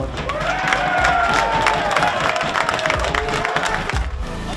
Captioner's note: cheers